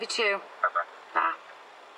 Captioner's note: on phone